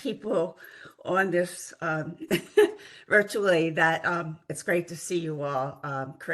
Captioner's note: laugh